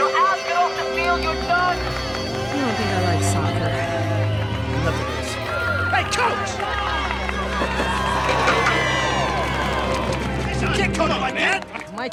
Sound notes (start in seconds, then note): 7.6 crowd clamoring